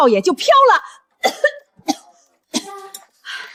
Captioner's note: cough cough